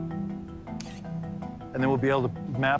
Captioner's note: camera shutter clicks